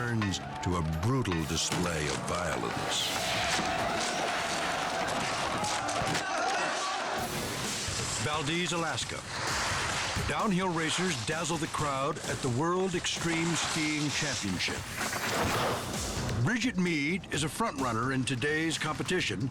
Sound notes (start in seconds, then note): 4.2 hits thudding; 4.2 people shouting